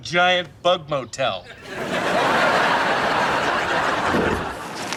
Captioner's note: laughs